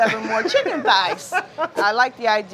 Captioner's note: laughs